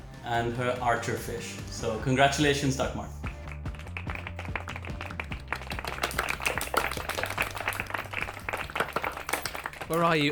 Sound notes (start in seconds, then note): 3.2 applause